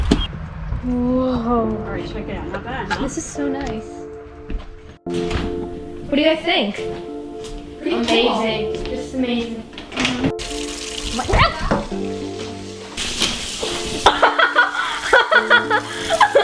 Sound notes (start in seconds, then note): 4.5 pensive, emotional music; 11.2 Candice yelps; 14.0 Emelie laughing